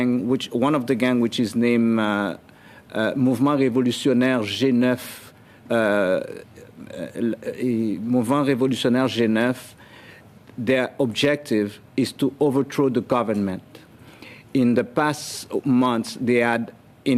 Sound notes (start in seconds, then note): 7.0 speaking French